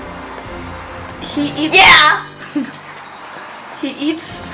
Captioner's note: laughing in the background